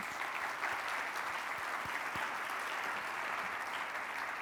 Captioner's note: audience applauds